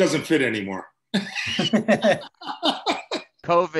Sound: laughter

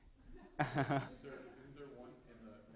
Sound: laughing

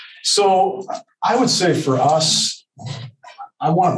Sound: laughs

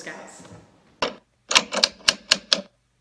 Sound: typewriter noises

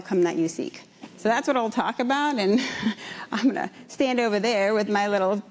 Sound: laughs

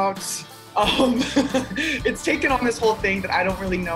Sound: laughs

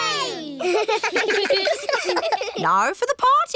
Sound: kids giggling

